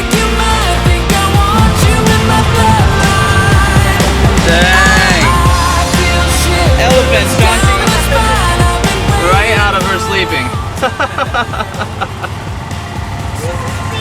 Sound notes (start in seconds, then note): 10.7 laughing